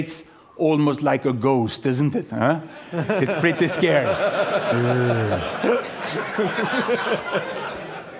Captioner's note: laughter